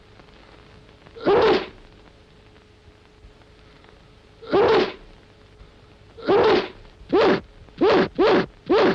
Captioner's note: achoo; achoo, achoo, achoo, achoo; achoo; achoo